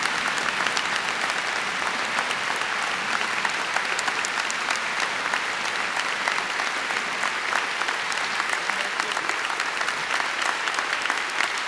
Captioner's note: applause